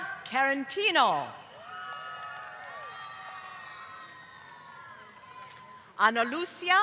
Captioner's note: applause